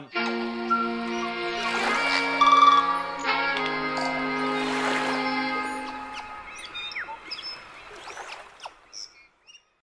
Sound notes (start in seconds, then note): 0.1 upbeat music; 1.2 water splashing; 1.9 birds chirping